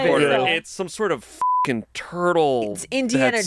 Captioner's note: beep